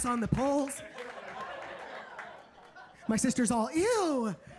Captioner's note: audience laughing